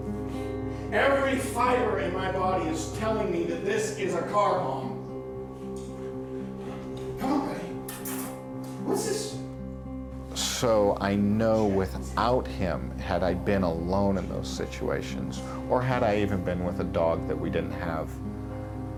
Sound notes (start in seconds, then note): 7.8 smooches